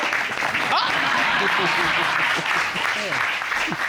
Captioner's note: chuckles